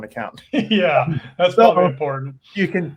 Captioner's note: laughs